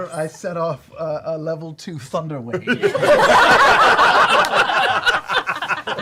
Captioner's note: laughter